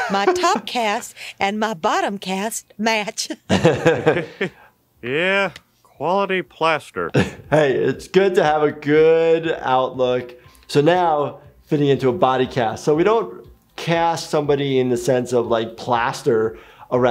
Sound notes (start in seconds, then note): 3.5 chuckles; 3.5 laughs